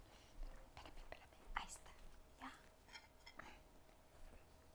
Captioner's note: Abuela mumbling in Spanish; speaks in Spanish